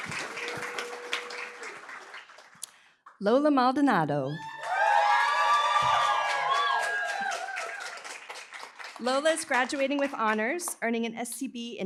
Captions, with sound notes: Lola Maldonado. [APPLAUSE, CHEERING] Lola's graduating with honors, earning an ScB